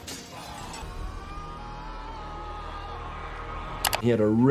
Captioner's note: dramatic music; yelling